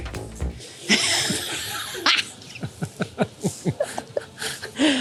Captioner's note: laughter